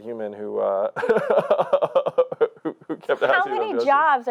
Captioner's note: laughing